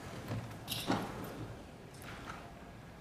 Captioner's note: none